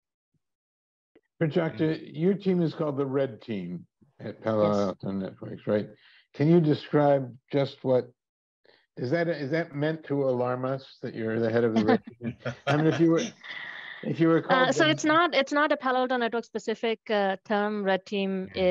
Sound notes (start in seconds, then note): 11.6 laughing